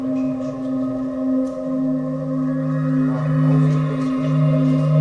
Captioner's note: spooky sounds